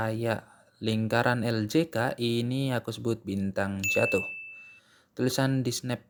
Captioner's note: bell sound